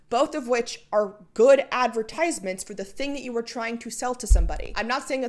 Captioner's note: mic bump